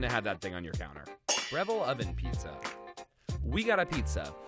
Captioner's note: metal clangs